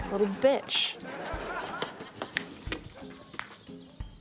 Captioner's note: laughter